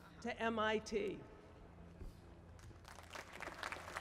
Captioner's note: applause